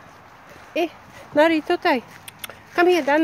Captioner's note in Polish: Cmoknięcie na psa